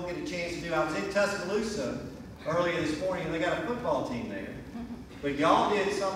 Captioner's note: laughter